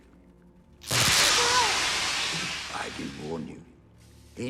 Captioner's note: static